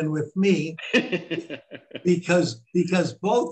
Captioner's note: laughing